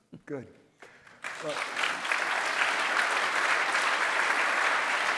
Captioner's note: audience applauds